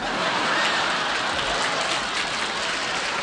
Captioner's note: laughter